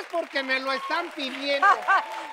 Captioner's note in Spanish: Ríe